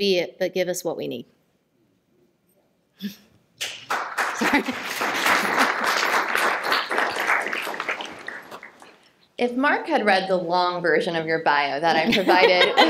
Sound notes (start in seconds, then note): 3.6 applause